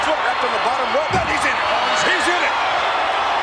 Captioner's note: audience cheers